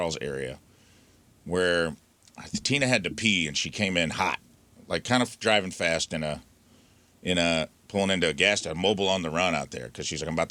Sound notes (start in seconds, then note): none